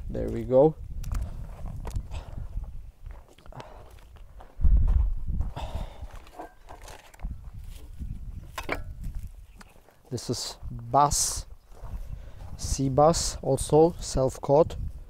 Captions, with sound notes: There we go. (wind blowing) Okay. This is bass. Sea bass, also self caught.